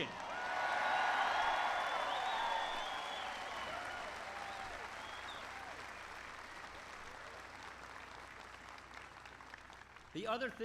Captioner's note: applause